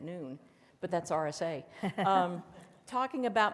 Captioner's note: laughs softly